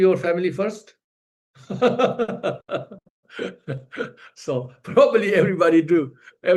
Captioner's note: laughs